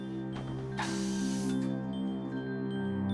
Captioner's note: soft music playing; air hissing